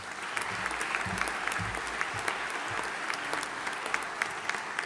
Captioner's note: audience applauding